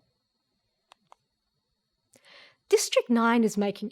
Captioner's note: mouse clicks